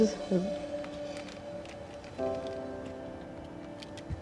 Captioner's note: rustling